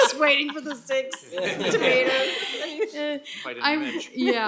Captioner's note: laughter